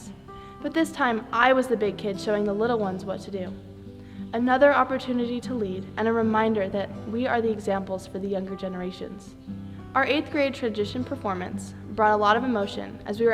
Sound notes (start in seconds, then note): none